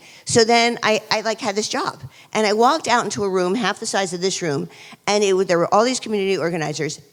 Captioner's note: none